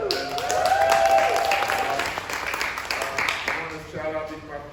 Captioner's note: applause